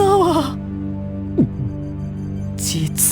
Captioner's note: gulp